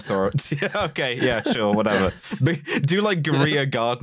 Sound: laughing

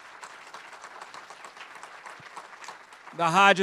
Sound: students clapping

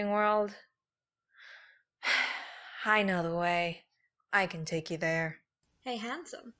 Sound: sighs

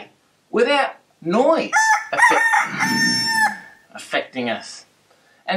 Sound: rooster crows

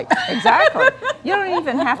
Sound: woman laughing

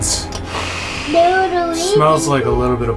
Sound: sniffs

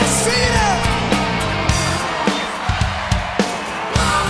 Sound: crowd

